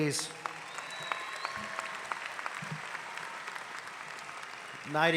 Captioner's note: audience applauding